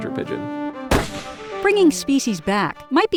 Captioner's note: gunshot